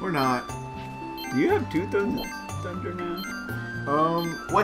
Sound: beep beep

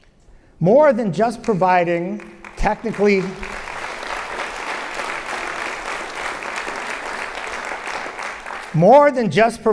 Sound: applause

